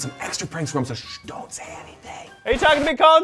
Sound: shushes

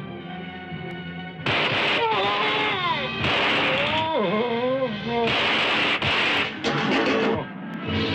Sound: Eegah groans; gunshots

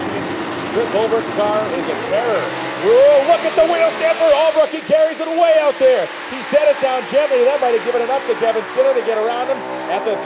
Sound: announcer talking fast

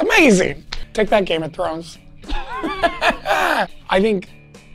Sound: laughs

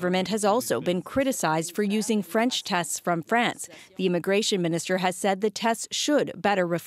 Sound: speaking French

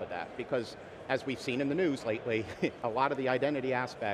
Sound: chuckles

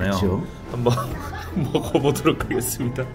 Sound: empty laughter

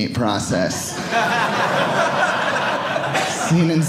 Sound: audience laughing

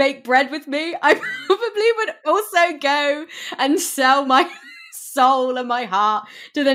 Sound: laughing

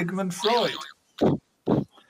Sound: boing

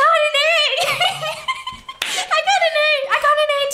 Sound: laughs

